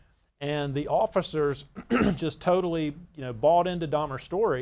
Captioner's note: clears throat